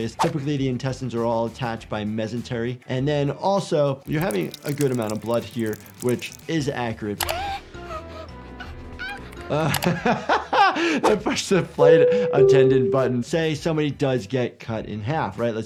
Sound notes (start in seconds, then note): 7.2 Flaky gasping; 9.7 laughs